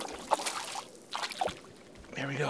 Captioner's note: splash